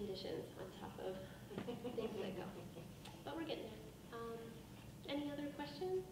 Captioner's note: laughing drowns out speaker